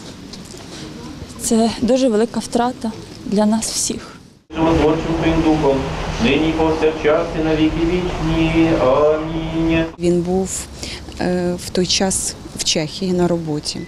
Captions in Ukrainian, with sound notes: Це дуже велика втрата для нас всіх. [звучить молитва за померлих] Він був в той час в Чехії на роботі.